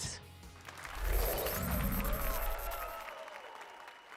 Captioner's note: applause and cheers